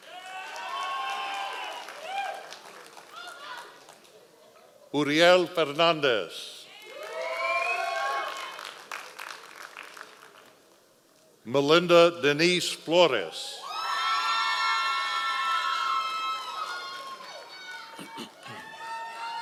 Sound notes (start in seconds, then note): 0.0 members of the audience cheering; 6.8 members of the audience cheering; 13.6 members of the audience cheering